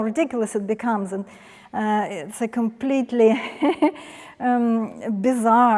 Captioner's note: laughs